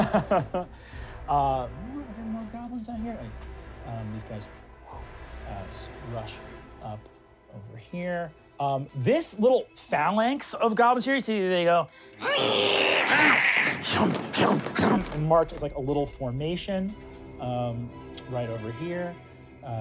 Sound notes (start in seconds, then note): 0.0 laughing; 12.2 screams and hisses; 14.4 thumping